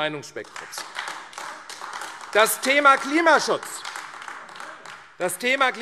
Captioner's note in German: Beifall AfD